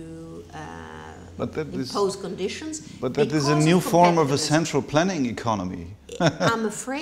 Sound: laughs

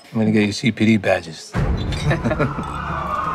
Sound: all chuckle

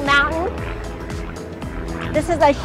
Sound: helicopter whirs overhead

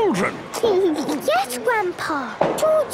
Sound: giggles

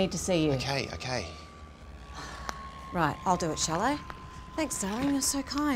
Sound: sighs

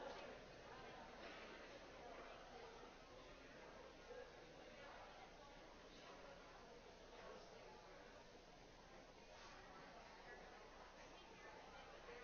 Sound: audience noise

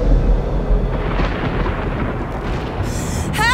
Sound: thunder and wind

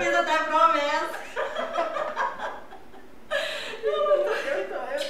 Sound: laughs

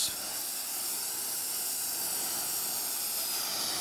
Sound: hissing

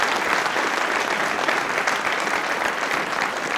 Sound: applause

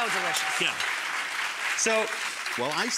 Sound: clapping continues

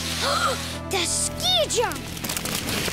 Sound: gasps

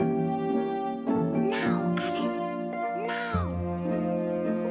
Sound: whispering

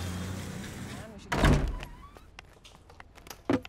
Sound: door opens

